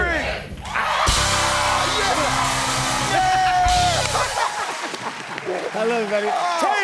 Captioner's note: cheers and applause